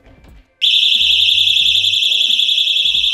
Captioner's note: alarm ringing